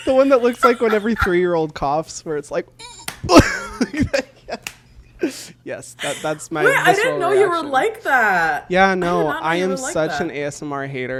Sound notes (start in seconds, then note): 3.8 groans; 6.0 laughs